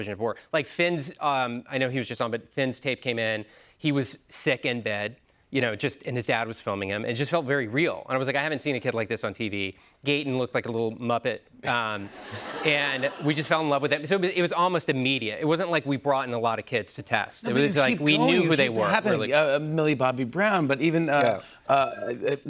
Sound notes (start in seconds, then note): 12.0 laughter